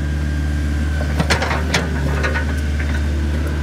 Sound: rumble

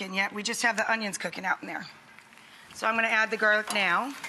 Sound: none

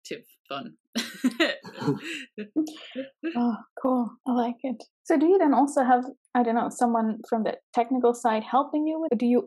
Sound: everyone laughs

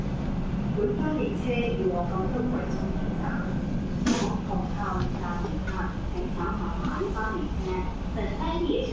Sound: Cantonese

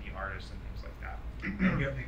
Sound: clears throat

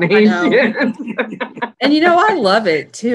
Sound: laughing

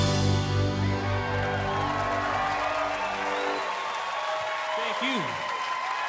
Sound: audience applauds and cheers

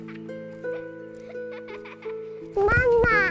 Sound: girl laughing

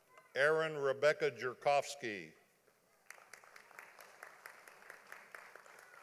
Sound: audience applauding

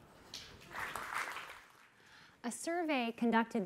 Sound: applauding

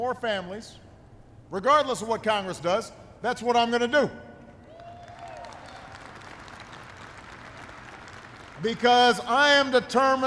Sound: applause

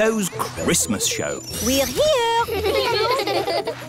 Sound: children giggling

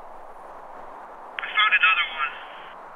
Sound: two-way radio

